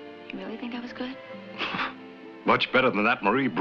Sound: chuckles

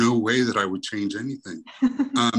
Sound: chuckles

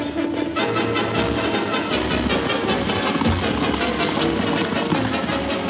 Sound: hooves thundering

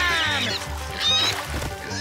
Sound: squealing

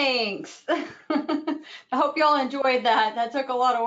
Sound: laughs

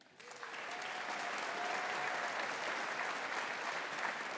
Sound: audience applauding

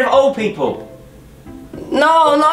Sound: zoooom

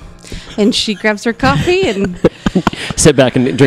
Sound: laugh

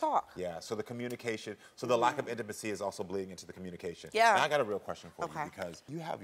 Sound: none

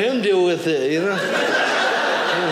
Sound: audience laughing

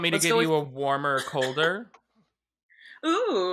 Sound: laughing

